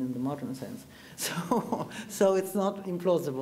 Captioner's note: chuckles